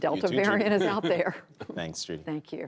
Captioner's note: laughter